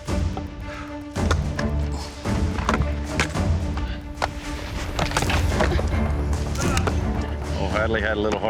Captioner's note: chopping